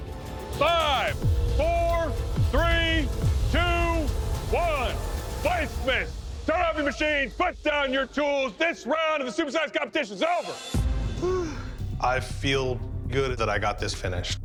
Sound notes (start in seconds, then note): 11.1 sighs